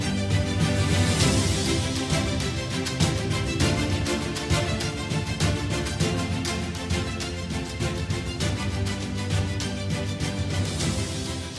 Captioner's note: applause